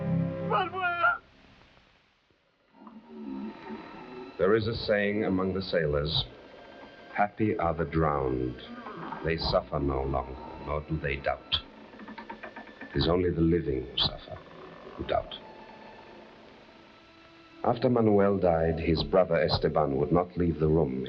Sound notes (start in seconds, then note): 11.8 bridge creaking; 15.4 gentle uneasy music; 16.7 bridge creaking